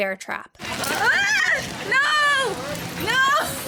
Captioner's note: screams